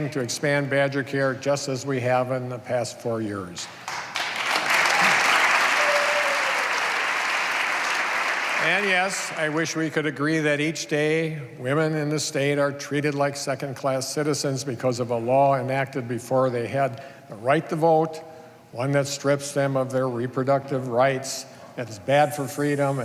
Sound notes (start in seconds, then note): 7.9 applause